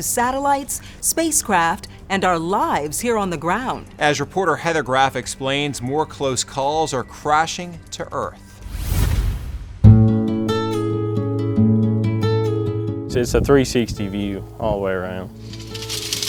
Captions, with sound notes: to satellites, spacecraft, and our lives here on the ground. - As reporter Heather Graf explains, more close calls are crashing to earth. (logo whooshes) (calm music) - It's a 360 view all the way around.